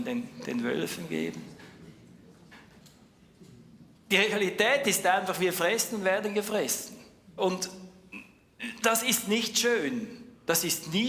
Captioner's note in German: räuspern